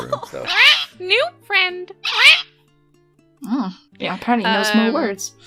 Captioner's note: parrot screech